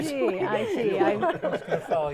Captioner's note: laughing